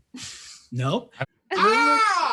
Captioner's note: screams